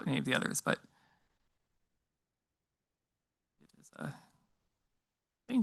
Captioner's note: speaks faintly